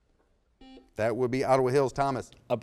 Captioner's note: buzzer beeps